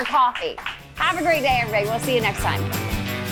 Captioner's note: audience applauding